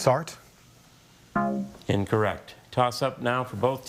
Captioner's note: bell blares